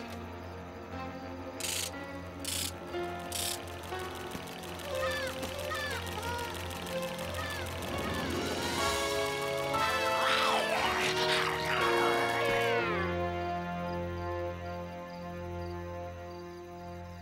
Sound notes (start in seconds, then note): 4.7 bleating mechanically; 9.8 werewolf snarling